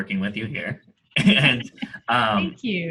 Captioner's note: laughing